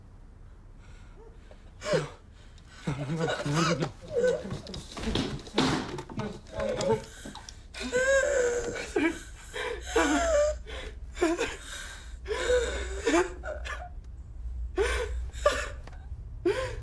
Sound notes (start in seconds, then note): 7.2 Heather gasps; 10.5 Heather wheezes; 12.2 Parker cries